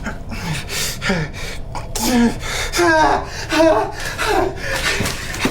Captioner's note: Miles groans and pants